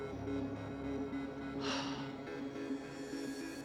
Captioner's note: sighs